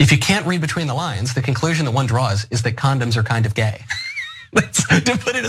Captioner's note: laugh